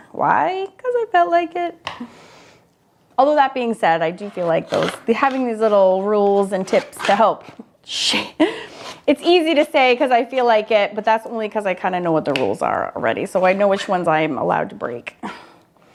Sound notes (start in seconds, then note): 8.0 laughs